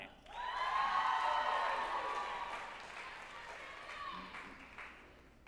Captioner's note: group applauding and cheering